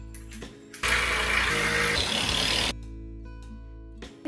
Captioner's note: machine whirring